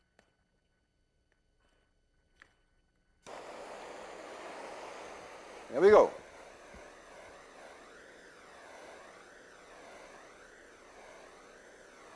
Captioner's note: blowtorch hissing